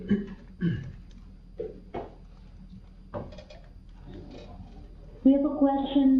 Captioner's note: pause